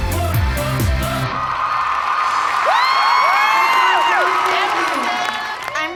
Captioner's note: song ends; applause, cheering